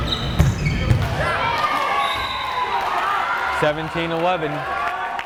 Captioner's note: crowd cheering